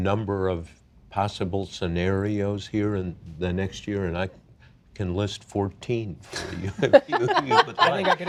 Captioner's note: laughter